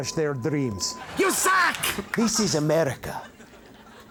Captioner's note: audience laughs